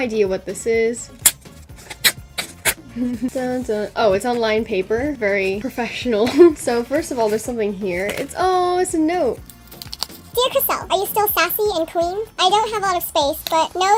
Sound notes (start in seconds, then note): 1.7 tearing noises; 2.9 laughs; 6.2 laughs